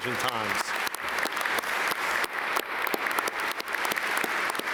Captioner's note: audience applaud